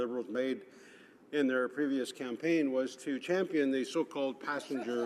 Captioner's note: laughter